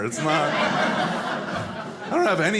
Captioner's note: audience laughing